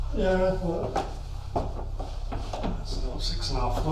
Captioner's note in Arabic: none